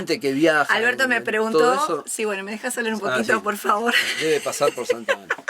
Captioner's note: laughs